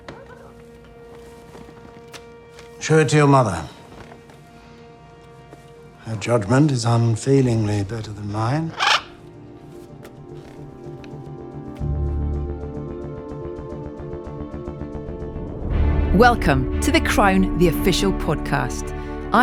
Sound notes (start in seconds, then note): 8.6 parrot squawking; 8.8 suspenseful classical music